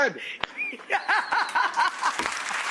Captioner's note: laughs; audience applause